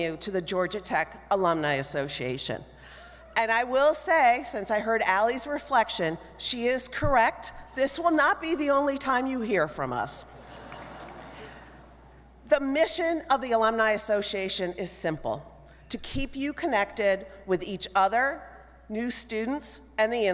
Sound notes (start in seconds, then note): 10.4 audience laughing